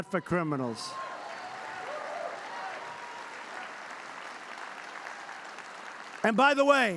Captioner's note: applause